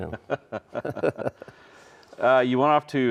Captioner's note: both chuckling